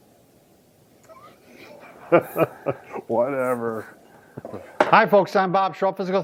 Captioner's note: laughing